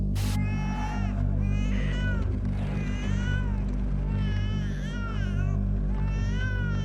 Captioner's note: baby crying